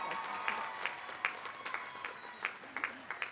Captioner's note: applause